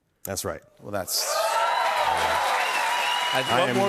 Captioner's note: cheers and applause